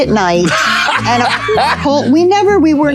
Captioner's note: Colman laughing